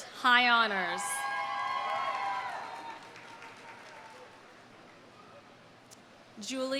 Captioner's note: audience cheering; audience applauding